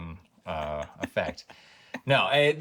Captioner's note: laughing